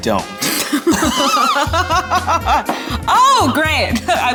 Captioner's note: laugh